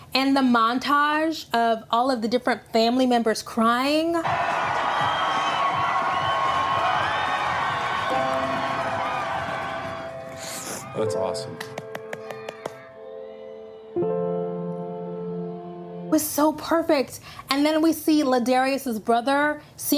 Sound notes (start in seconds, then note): 4.5 uproarious cheer; 11.6 clapping